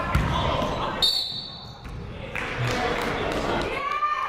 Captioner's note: whistle blows